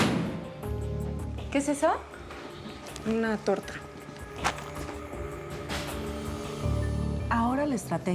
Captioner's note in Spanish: Sonido de puerta al cerrar